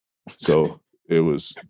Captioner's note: both laughing